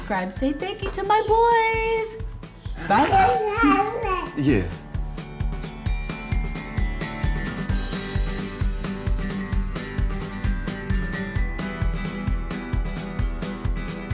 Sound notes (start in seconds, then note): 2.6 baby gurgles; 5.5 upbeat music